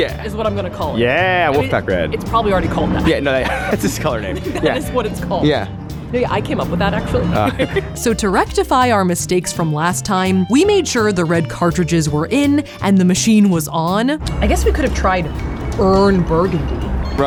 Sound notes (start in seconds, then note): 7.2 laughs